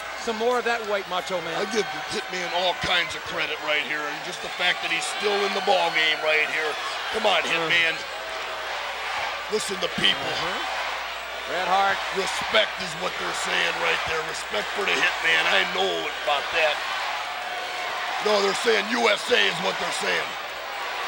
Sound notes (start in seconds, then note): 8.3 audience chanting